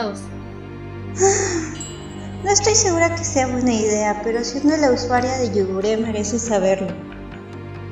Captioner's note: sigh